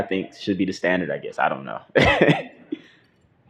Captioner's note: laughter